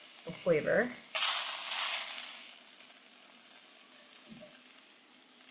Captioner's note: butter sizzling